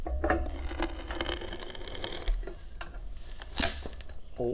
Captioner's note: sound of wood fibers compressing